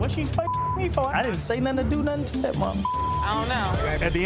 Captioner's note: beeps